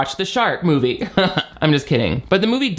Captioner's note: chuckles